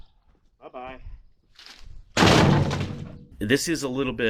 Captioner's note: crashing noise